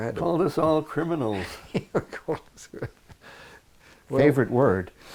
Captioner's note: laughs